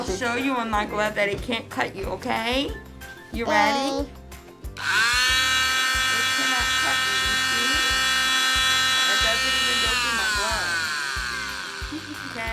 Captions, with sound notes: - I'll show you on my glove that it can't cut you, okay? - Okay. - You ready? (drill buzzes) - It cannot cut you, you see? It doesn't even go through my glove.